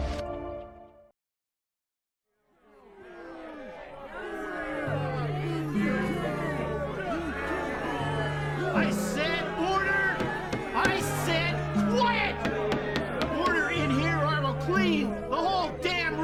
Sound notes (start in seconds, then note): 2.8 crowd grumbling; 10.1 gavel banging